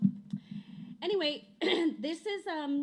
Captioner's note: clears throat